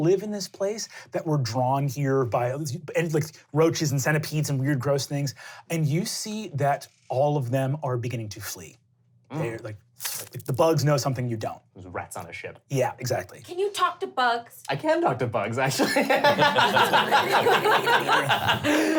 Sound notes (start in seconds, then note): 10.5 skittering; 15.7 laughing